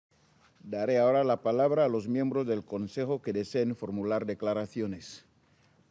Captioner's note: in Spanish